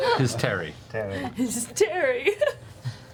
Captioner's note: giggling